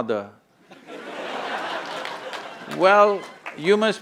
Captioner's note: laughter